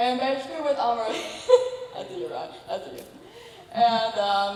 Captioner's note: laughs